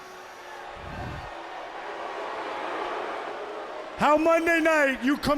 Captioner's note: crowd cheering